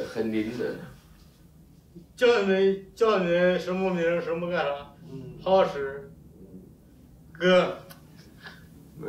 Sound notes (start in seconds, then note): 2.4 speaks in Chinese language